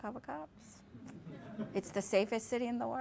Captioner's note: laughter